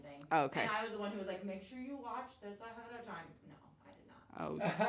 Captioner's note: murmurs